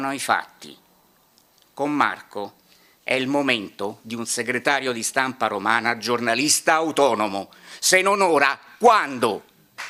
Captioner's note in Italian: Applauso